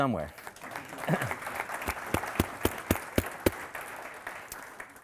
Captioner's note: audience applauding